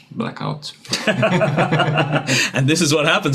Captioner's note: laughing